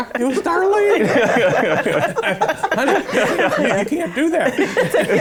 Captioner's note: laughter